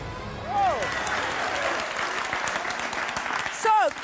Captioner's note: audience applauding